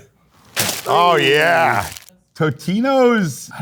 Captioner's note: plastic crinkles